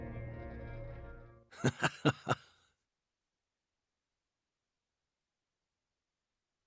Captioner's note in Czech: temný smích